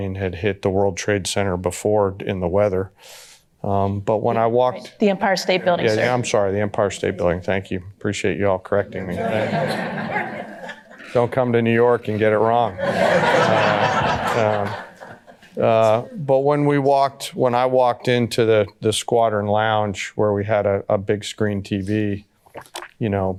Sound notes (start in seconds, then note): 8.9 audience laughter